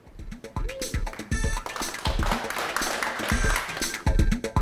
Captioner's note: audience applauds